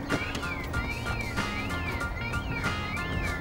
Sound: alarm continues

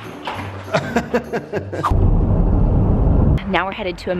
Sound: laughs

